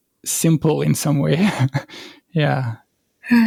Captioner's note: laugh